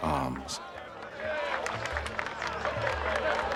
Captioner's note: applause and cheering